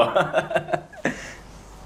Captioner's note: he laughs